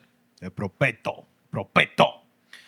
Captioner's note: non-english Speech